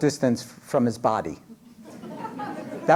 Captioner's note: laughter